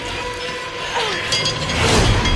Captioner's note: groaning